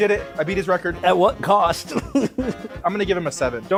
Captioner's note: laughs